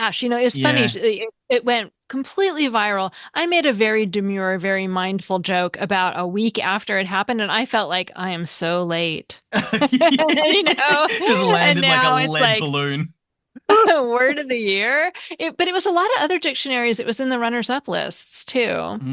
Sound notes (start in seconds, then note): 9.5 laughter; 9.5 laughs